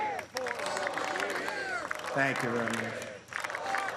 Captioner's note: applause